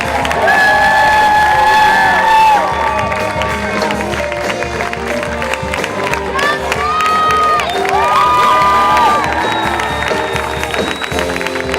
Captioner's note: cheering